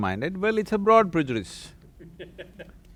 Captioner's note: laughter